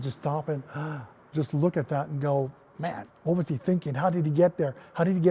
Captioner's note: gasp